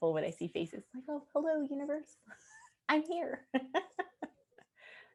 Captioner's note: laughing